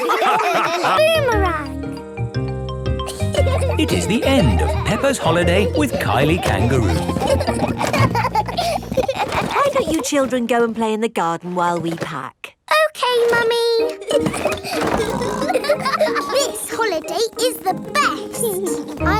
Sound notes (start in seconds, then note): 7.9 children laughing; 13.9 laughing and snorting